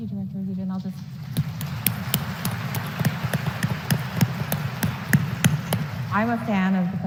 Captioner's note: applause